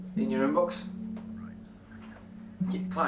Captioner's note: voice on phone